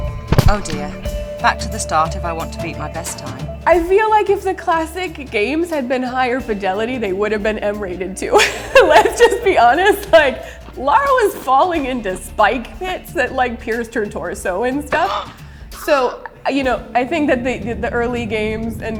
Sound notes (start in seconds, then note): 8.3 laughing; 15.0 Lara gasping